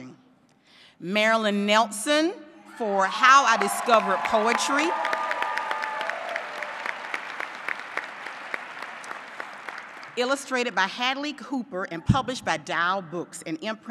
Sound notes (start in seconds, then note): 3.5 applause